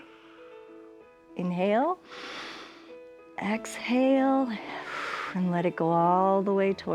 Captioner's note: exhales; inhales